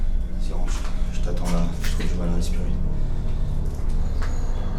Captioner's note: speaks French